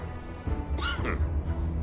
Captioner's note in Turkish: Öksürük sesi